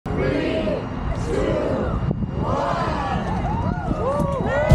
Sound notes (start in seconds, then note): 1.1 crowd Chanting; 2.8 crowd Cheers